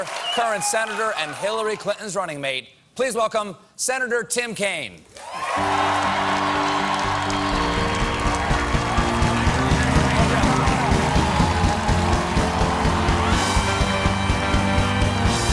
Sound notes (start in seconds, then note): 5.2 cheers and applause; 5.6 band playing